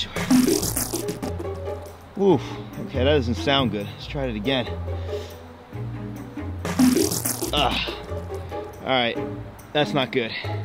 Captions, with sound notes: (electric wave sounds) Oof, okay, that doesn't sound good. Let's try it again. (electric wave sounds) (suspenseful music) Ugh, all right. That's not good.